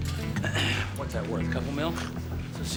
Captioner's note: clears throat